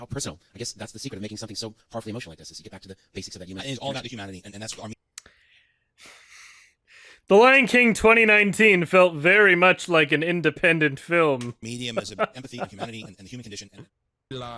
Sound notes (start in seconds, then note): 6.4 cringe sigh; 12.0 lightly chuckles